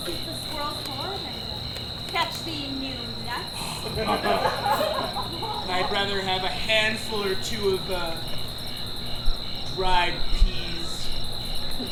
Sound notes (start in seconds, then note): 3.6 laughs